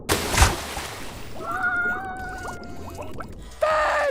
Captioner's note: screaming